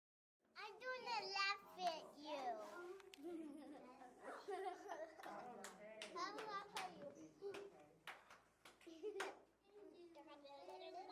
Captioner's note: sounds of children in the classroom